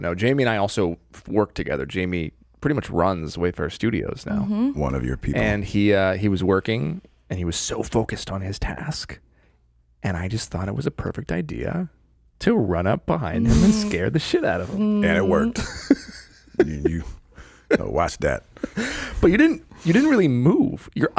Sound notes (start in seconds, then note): 15.1 laughing